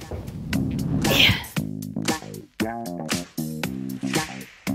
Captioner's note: funky music; grunts